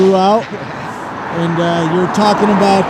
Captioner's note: laughs